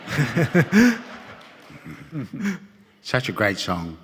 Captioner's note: audience laughing